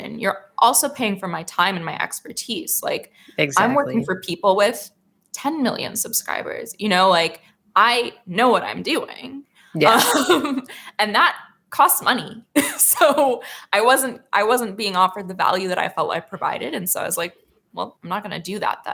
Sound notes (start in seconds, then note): 9.8 laughs